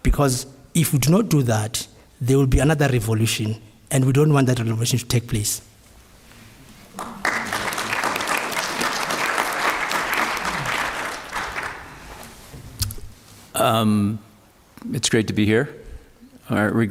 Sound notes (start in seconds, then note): 6.9 applause